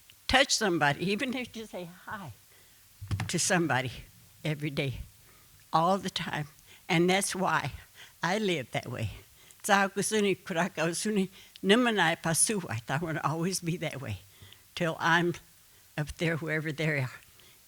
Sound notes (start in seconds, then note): 9.5 speaking Comanche